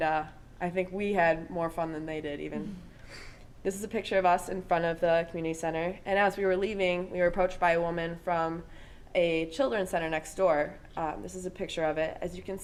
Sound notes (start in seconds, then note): 2.6 all chuckling